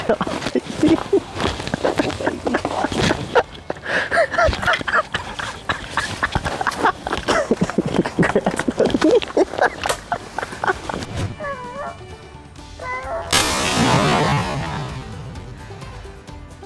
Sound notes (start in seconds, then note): 2.0 laughter; 13.3 gunshot